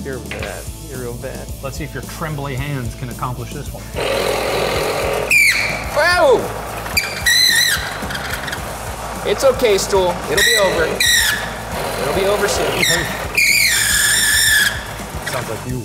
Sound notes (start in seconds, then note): 4.3 drill whirring then squeaking; 7.5 drill squeaking; 13.3 drill squealing